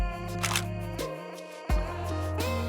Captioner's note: mellow music; shutter clicks; mellow music